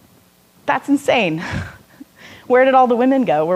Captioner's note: laughing